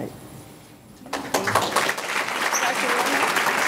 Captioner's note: audience clapping